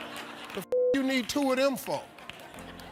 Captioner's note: audience laughing; beep; audience laughing